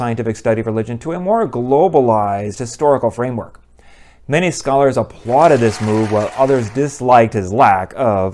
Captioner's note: people clapping